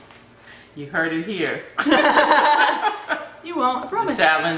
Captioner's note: laughter